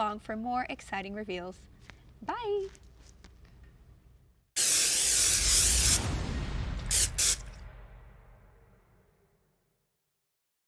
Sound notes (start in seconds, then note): 4.5 paint can hissing